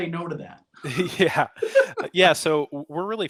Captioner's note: laughs